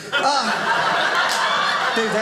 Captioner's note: audience laughing